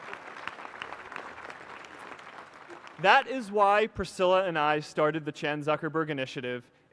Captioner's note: applause